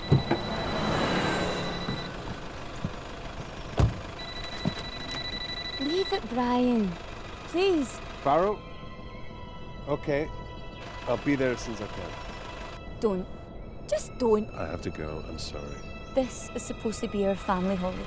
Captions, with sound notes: We're gonna miss the plane. (phone rings) (car drives past) - Leave it Brian, please! - Farrow. Okay, I'll be there as soon as I can. - Don't, just don't.